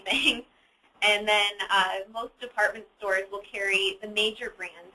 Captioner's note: laughs